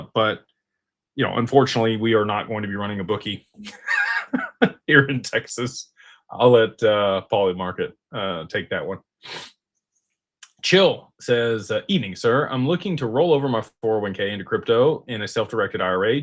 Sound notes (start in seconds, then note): 3.6 laughter; 10.2 snorts